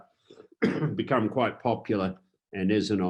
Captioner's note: coughs